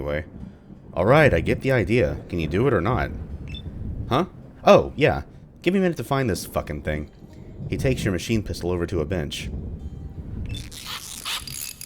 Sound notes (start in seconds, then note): 7.4 thunder